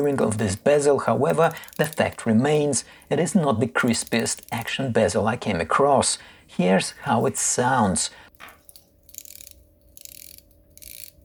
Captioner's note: turning bezel